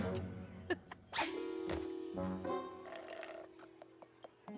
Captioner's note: chuckles; slurp!